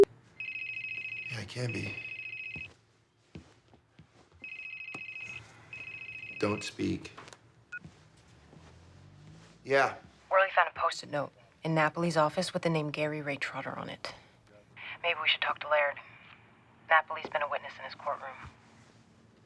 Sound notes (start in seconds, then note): 0.4 cell phone ringing; 7.5 cell phone beeps